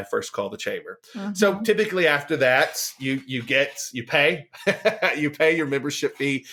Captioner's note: laughs